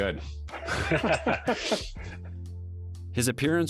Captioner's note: laughing